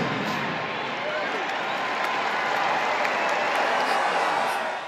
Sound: crowd cheers

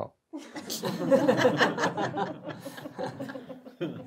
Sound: audience laughs

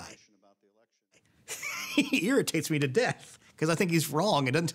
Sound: laughs

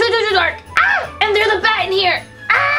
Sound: screams

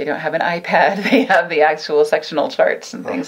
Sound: laughing

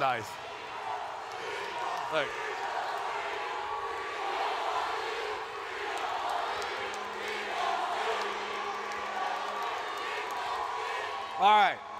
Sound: chanting

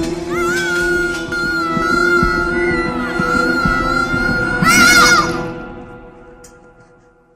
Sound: screams

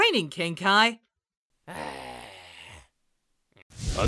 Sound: groans

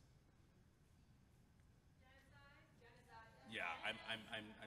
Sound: participant speaking faintly

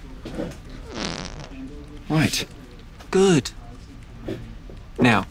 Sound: whoopee cushion farts

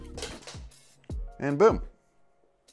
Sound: cut cable clatters to ground

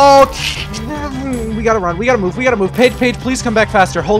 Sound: frightened throat noises

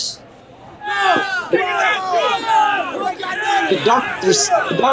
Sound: crowd

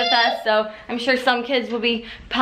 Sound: yelling

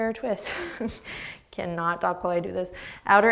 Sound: laughs

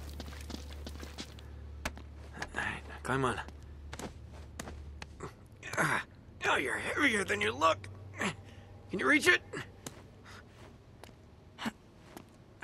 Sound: groans

